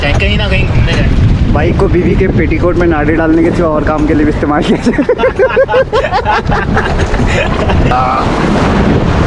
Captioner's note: laughs